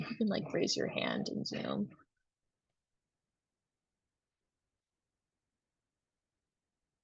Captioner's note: silence